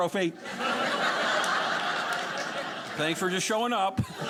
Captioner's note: audience laughing